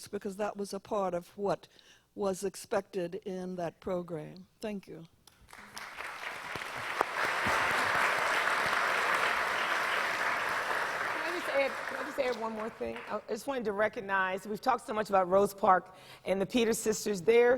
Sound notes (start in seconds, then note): 5.5 audience applause